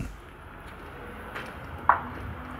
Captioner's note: traffic noise